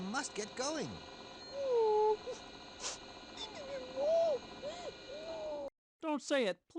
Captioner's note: Heartbroken Beaker noises